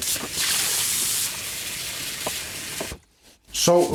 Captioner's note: water running